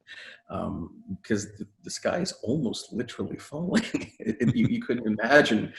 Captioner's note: laughing